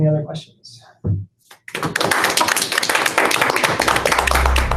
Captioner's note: applause